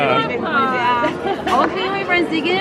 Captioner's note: laughs